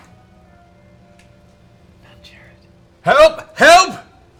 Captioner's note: shouting